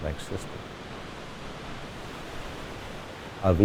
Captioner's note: water rushing through the dam